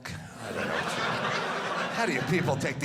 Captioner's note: audience laughing